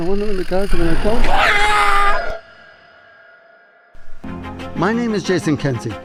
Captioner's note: suspenseful music; yells